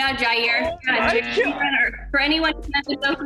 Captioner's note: buzzer